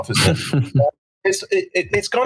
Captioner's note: laughing